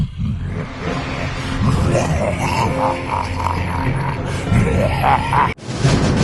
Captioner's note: laughing like Mannoroth